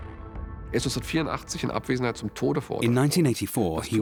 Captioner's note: speaking German